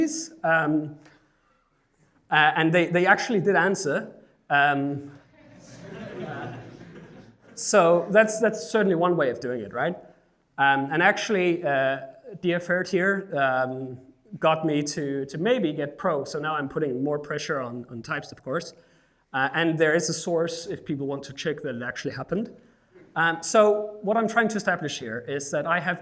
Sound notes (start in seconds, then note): 5.3 laughing